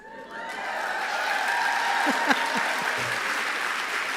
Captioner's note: applause